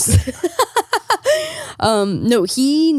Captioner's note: laughing